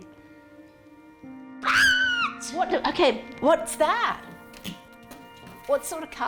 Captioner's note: squeals